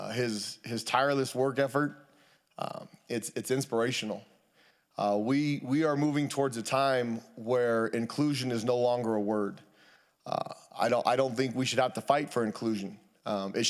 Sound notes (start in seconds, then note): none